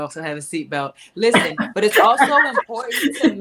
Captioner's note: laughing